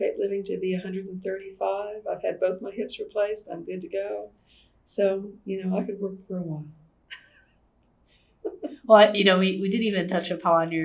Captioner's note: laughs